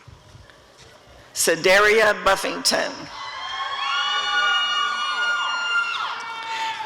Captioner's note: applause and cheering